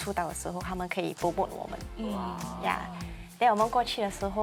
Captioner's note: wah